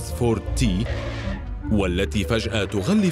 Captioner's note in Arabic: صرير إطارات